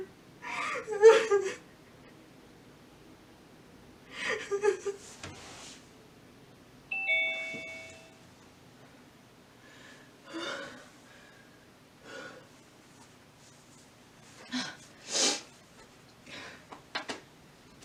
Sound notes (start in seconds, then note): 6.9 Zoom Doorbell Sound